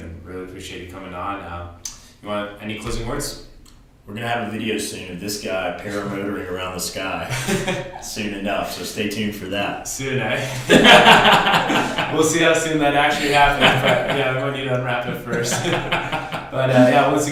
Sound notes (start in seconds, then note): 7.2 laughs; 10.3 laughs